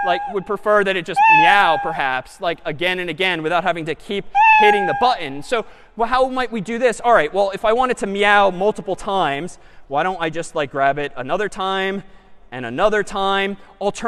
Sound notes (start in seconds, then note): 1.2 meow; 4.4 meow